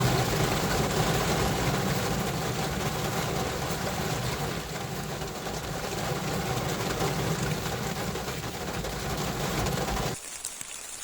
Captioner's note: heavy Rain